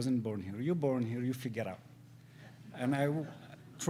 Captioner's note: audience laughs